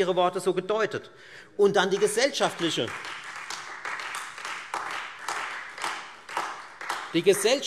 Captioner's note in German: Beifall Freie Demokraten und vereinzelt AfD